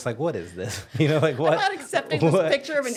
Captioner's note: laughing